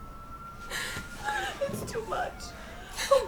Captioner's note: crying